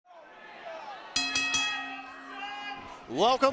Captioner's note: bell ringing